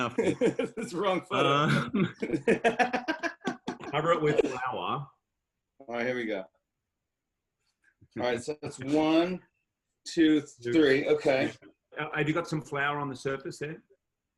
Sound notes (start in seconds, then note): 0.0 laughter; 0.0 laughing